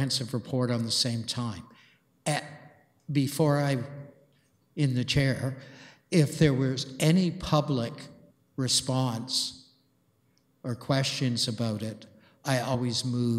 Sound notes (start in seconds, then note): none